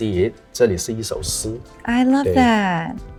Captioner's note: speaking foreign language